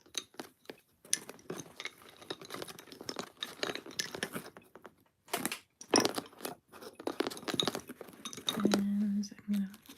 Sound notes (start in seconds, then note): 3.6 bobbins clinking together